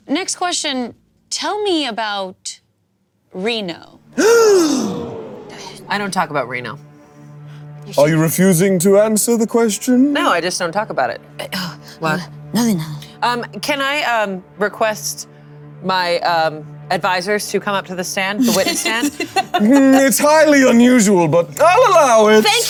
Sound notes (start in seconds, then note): 4.1 audience gasping sharply